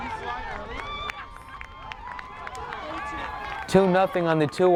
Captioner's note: supporters cheering